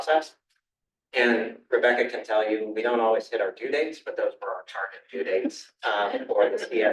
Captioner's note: laughter